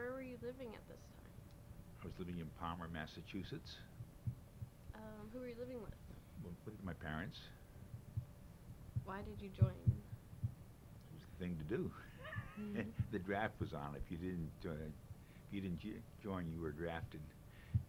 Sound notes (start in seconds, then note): 11.8 chuckles